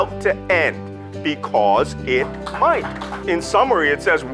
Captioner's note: audience applauds